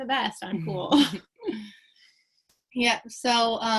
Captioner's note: both chuckle